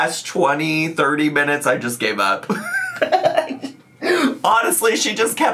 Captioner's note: laughs